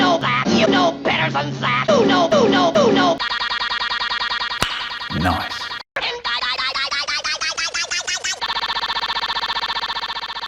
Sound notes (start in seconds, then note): 4.6 click